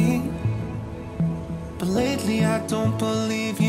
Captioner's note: wind blowing